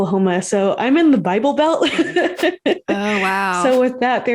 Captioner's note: laughs